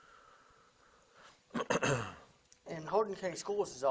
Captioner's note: clearing throat